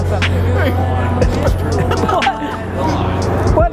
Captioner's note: laughter